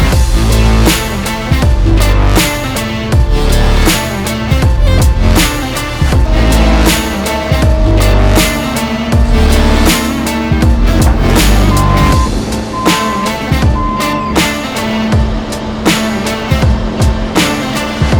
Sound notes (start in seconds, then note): 7.0 machinery revving; 7.0 upbeat music; 12.1 machinery beeping; 12.1 upbeat music